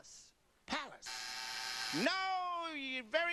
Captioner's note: buzzer